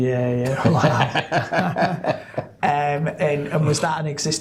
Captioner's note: laughing